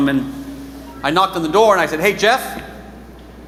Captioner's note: none